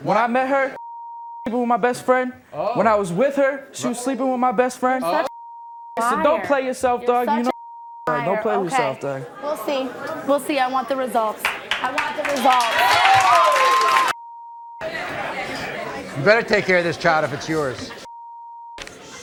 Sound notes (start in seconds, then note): 7.3 beep; 12.9 audience cheers